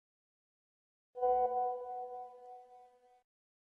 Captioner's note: message alert tone